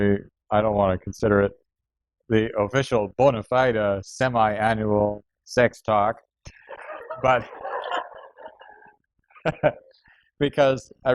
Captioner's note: laughter